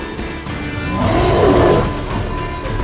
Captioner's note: roar